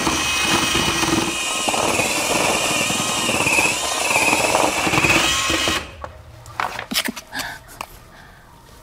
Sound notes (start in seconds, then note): 3.3 rattle